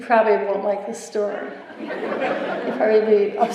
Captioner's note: laughter